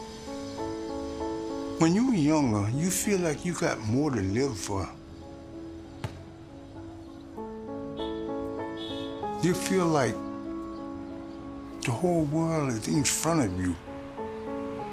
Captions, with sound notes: [gentle instrumental music] - When you are younger, you feel like you've got more to live for. [ball bouncing] You feel like the whole world is in front of you.